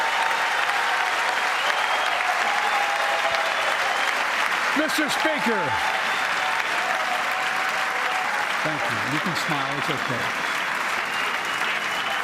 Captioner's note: cheers and applause